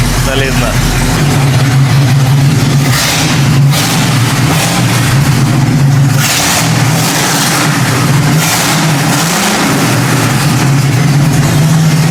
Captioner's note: engine roar